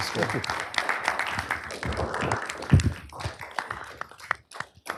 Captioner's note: applause